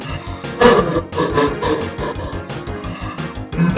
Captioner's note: creepy chuckle